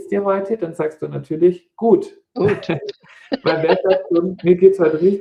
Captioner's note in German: gelächter